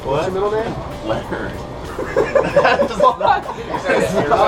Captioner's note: laughing